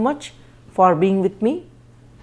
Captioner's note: conversation